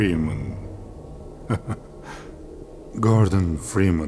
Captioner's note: chuckles